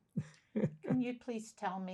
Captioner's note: laughing